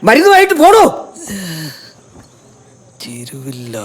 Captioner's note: groaning